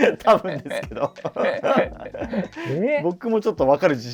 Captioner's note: laughing